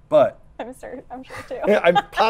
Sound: laughs

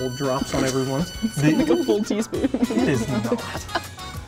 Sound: laughing

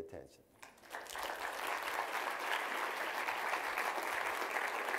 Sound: applause

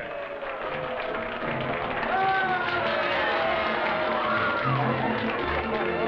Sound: partygoers cheering and applauding

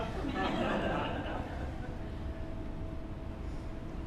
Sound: audience laughs

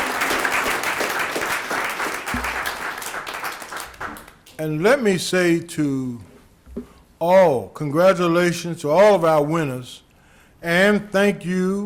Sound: applause

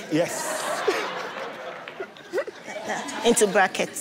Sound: laughs

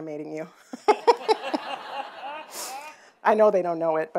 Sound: audience laughing

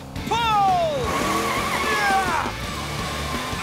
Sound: grunting

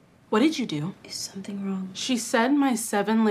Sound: none

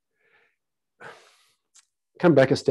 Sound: sighs

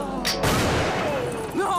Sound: gunshot

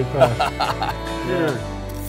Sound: chuckling

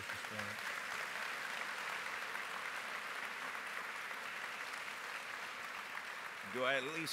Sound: applause

